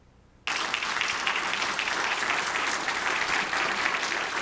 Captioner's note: audience applauding